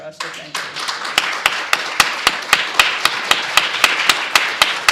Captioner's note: applause